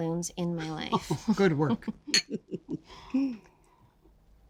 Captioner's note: laughs